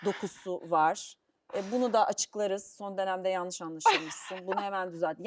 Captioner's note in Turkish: kahkaha